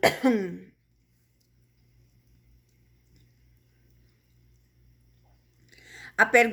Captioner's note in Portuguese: tosse